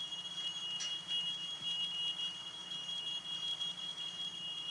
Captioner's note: fire alarm beeping